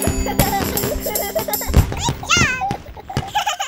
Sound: fireworks crackling; trucks giggling; bumblebee truck giggles

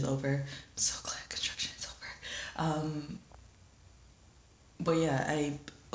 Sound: whispers

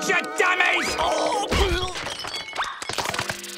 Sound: groaning, grunting

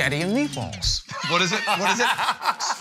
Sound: laughter

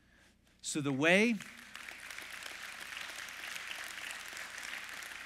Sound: congregation claps

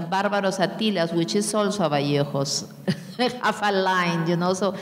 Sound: speaking in a foreign language

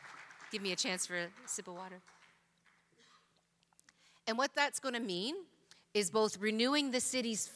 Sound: applause

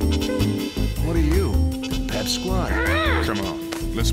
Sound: Clover growls

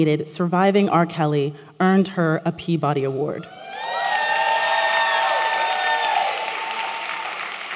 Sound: applause

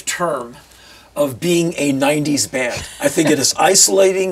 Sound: chuckles

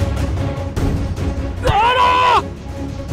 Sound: Rajesh screams

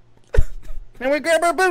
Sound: laughter

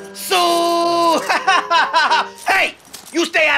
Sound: laughs

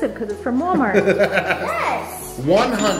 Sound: laughing

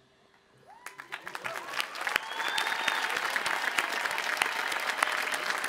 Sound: audience applauding and cheering

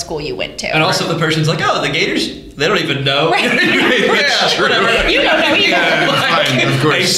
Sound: laughter

